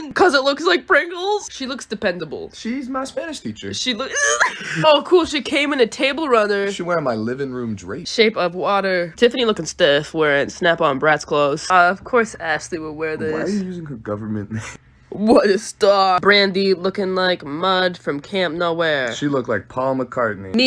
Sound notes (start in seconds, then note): 4.0 laughs